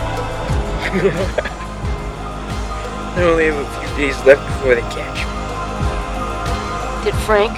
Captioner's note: chuckles